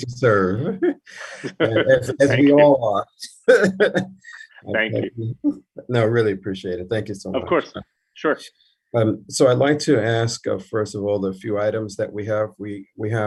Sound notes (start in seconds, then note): 3.1 laughing